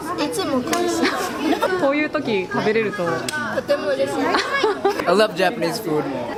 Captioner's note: laughs